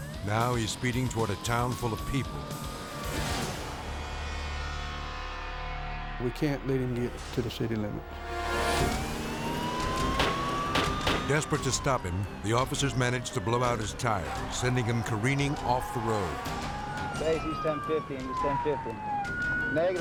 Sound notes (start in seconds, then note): 3.2 tense foreboding music; 9.1 sirens wailing; 9.1 tense music